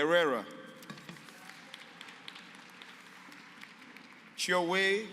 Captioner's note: applause